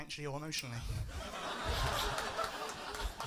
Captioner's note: laughter